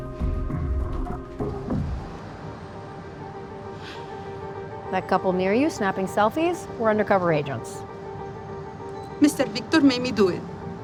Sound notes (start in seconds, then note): 3.8 Maria gasps